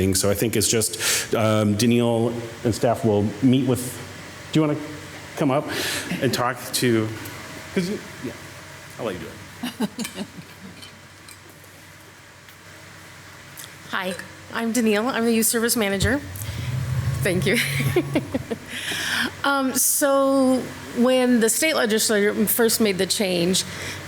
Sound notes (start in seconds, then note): 9.5 council member laughing; 15.8 lectern whirring; 17.4 laughs